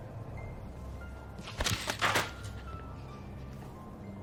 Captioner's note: book hits to the floor